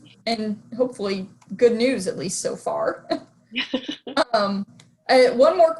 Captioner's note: laughs